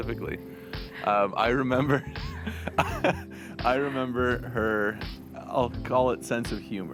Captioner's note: chuckles